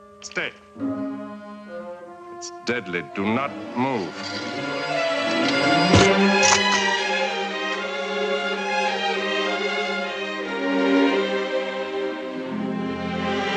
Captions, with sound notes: _ SfaY- (dramatic music) It's deadly. Do not move. (knife thudding) (dramatic music)